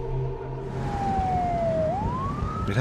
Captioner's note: police sirens